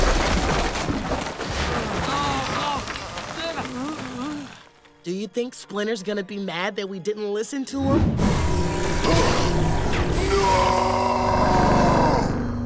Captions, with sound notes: [groaning] Do you think Splinter's gonna be mad that we didn't listen to him? [screaming]